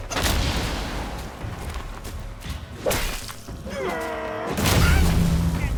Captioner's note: weapons whooshing and exploding